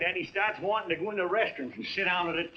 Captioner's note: none